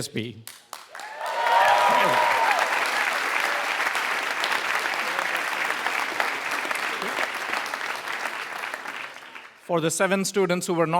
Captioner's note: applause